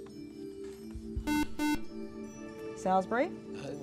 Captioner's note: buzzer